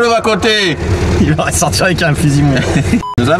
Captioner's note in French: rires